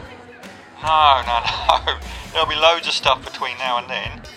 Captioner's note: laughs